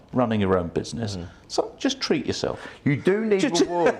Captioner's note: laughs